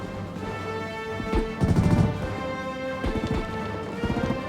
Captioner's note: gunfire outside